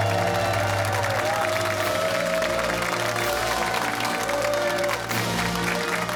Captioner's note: cheers and applause